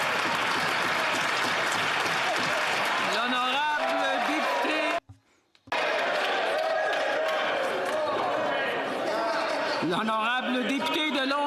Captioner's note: some Applause